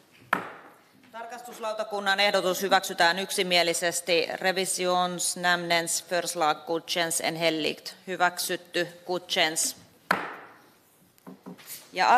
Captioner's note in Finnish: nuijan kopautus